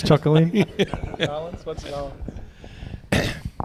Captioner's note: laughter